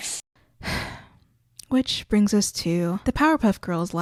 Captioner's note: sigh